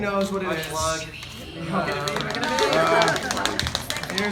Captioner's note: laughter